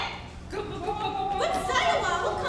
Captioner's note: men chattering